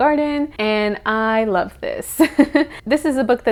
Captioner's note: giggle